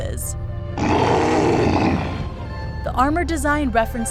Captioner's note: Appa roars